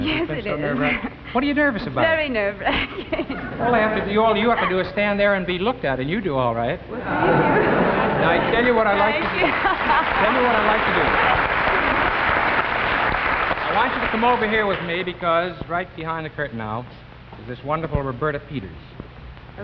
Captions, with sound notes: - YES IT IS - WHAT ARE YOU NERVOUS ABOUT? - VERY NERVE-WRACKING (LAUGHS) - ALL YOU HAVE TO DO IS STAND THERE AND BE LOOKED AT AND YOU'D DO ALL RIGHT (AUDIENCE LAUGHING) - WELL, THANK YOU (AUDIENCE APPLAUDING) NOW, I'LL TELL YOU WHAT I'D LIKE TO DO- (AUDIENCE APPLAUDING) I WANT YOU TO COME OVER HERE WITH ME BECAUSE RIGHT BEHIND THE CURTAIN NOW IS THIS WONDERFUL ROBERTA PETERS